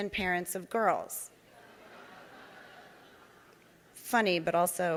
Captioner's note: audience laughing